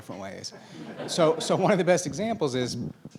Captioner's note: laughing